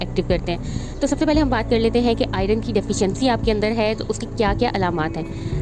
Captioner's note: heart palpitations